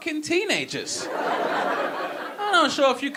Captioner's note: audience laughing